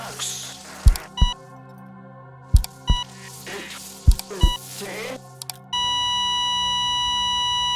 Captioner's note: heart monitor flatlines